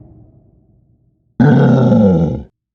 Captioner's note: roars